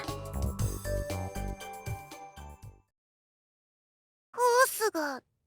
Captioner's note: silence